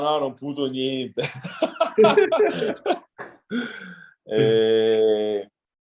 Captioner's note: laughs